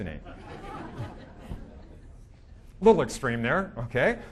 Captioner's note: audience laughing